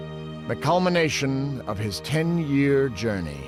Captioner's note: none